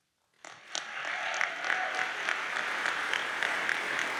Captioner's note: audience applauds